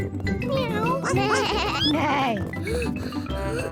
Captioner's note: animal noises